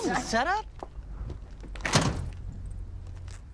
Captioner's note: truck door slams shut